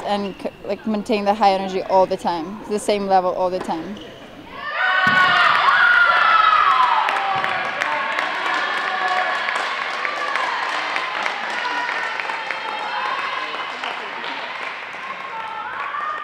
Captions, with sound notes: and maintain the high energy all the time-- the same level all the time. [CHEERING] [CLAPPING]